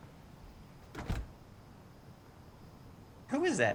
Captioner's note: door shuts